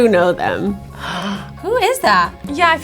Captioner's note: gasps